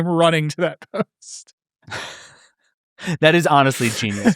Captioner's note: laughing